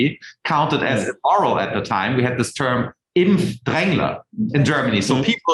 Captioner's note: speaking foreign language